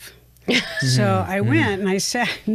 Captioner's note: laughs